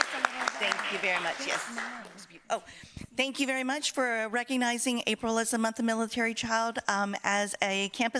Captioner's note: applause